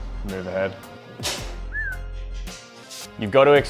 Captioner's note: he whistles